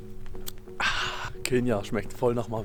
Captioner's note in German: Ahhh